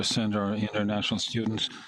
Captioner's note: speaking French